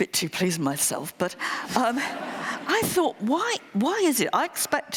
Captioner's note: laughter